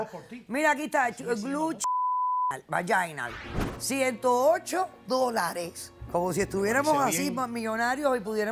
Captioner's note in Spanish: Bip